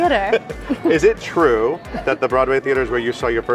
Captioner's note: laughs